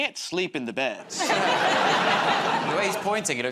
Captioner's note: laughter